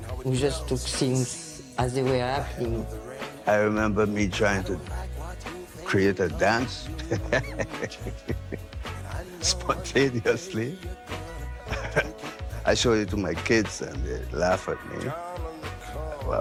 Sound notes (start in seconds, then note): 6.8 laughs